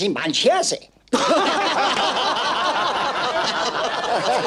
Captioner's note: haha